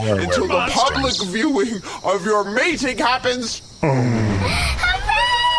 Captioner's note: Frooho neighs happily